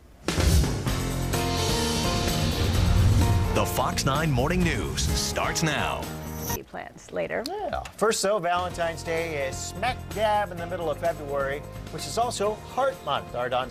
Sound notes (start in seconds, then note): 0.4 upbeat piano music; 3.9 voiceover